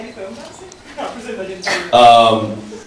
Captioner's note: laughing